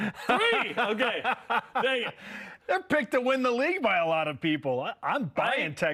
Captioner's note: laughter